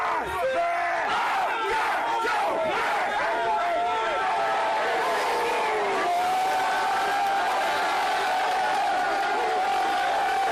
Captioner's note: screaming; cheering